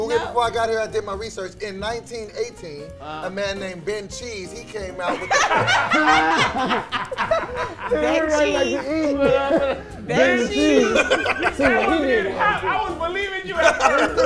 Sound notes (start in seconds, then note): 5.0 group laughs; 13.6 laughs